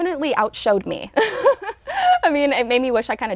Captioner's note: laughs